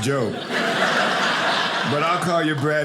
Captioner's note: audience laughing